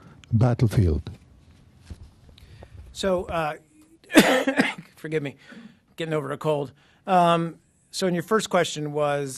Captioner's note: coughing